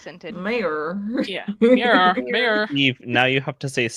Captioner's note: southern accent